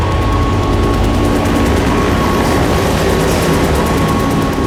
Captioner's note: helicopter zooming